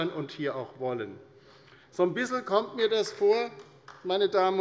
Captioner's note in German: Beifall bei der LINKEN